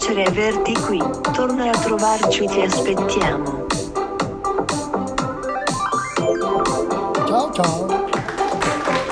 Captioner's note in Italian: Applauso